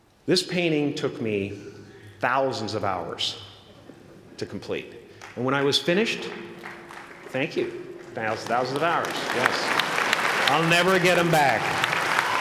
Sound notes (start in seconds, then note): 6.0 applause